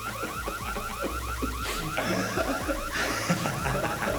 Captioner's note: alarm blaring